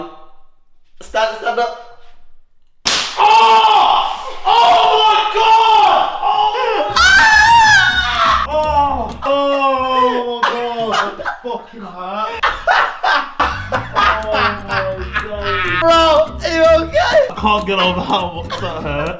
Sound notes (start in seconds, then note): 3.4 screams in pain; 6.4 lauging; 9.3 moaning in pain; 9.7 moaning